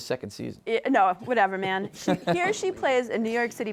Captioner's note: laughs